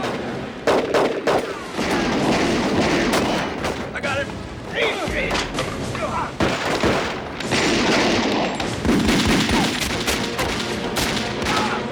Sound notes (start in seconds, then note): 6.3 gunfire continues